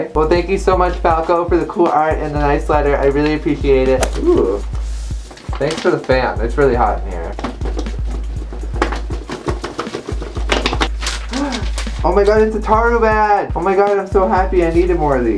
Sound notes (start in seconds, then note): 9.1 extreme fanning; 11.2 gasps